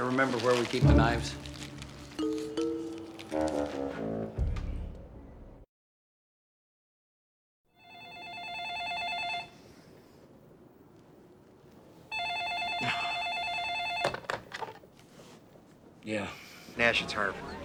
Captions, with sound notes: Uh, do you happen to remember where we keep the knives? (phone rings) (grunts) Yeah? Nash, it's Harv.